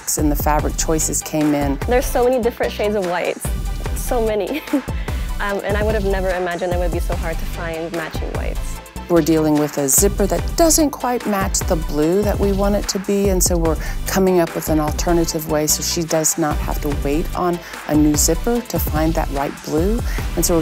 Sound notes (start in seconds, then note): 4.7 laughs